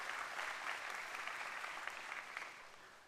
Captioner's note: applause